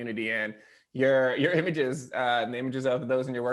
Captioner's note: laughing